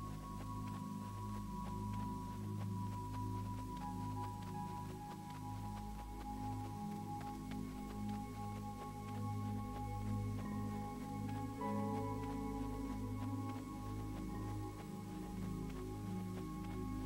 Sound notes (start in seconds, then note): 7.8 sprinting; 14.8 melancholy Music